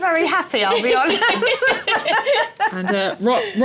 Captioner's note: laughter